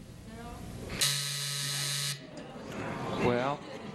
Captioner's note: buzzer